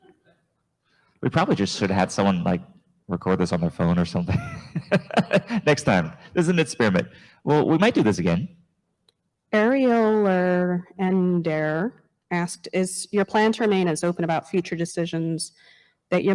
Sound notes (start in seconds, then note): 4.2 chuckles